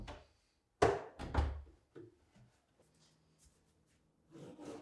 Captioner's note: cabinet thudding